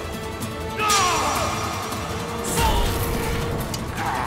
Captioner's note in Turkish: Dövüş sesleri